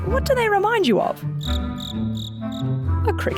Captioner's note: chirping